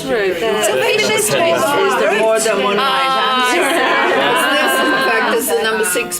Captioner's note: participant chatter